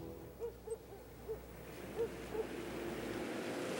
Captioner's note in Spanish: música de suspense; cachorro latindo